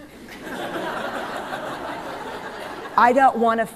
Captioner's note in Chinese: 笑聲